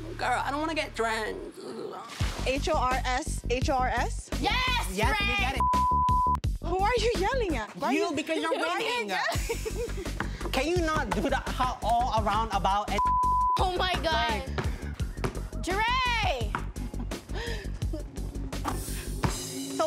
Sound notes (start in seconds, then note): 4.4 shouts; 5.6 beep; 13.0 beeps; 17.4 laughs